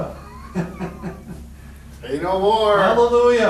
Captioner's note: chuckling